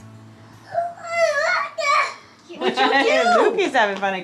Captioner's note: babbles